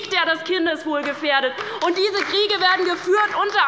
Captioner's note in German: Beifall bei der LINKEN